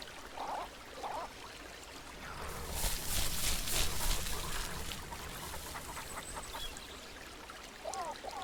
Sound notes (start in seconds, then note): 3.9 bush rustling